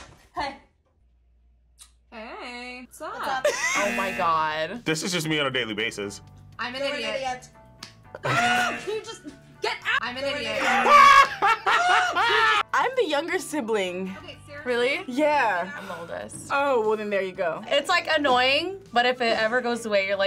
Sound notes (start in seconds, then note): 3.4 laughs; 8.2 laughs; 8.2 buzzer rings; 10.2 buzzer rings; 10.7 laughs